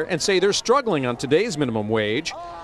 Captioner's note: chanting